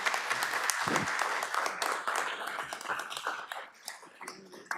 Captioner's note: audience applauds